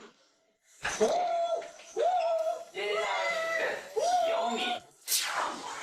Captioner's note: cheers